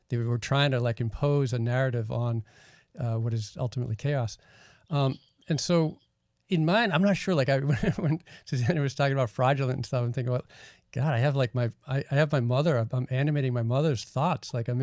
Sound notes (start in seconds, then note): 7.7 laughing